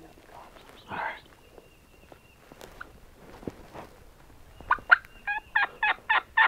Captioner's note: turkey calling